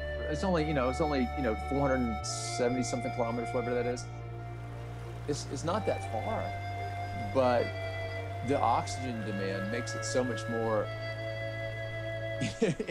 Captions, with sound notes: It's you know, 472 kilometers... [running water] It's not that far But the oxygen demand makes it so much more ...